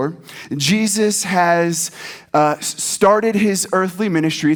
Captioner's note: none